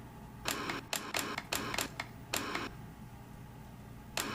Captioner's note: TV clicking